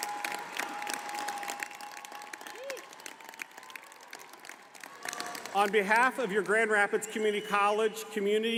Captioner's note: applause